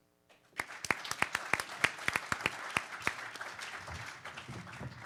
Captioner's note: participants applaud